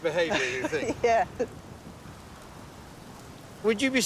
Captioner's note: laughs